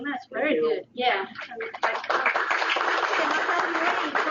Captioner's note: applause